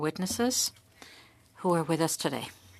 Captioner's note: speaking French